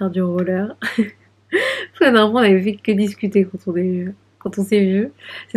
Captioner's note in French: rires